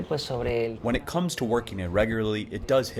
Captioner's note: through translator